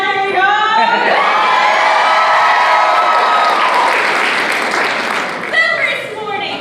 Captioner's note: applause